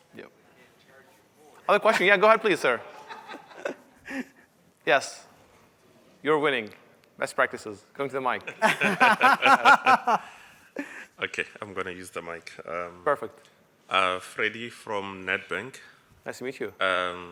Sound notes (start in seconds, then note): 2.8 laughter; 8.5 laughter